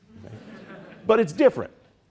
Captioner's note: audience chuckling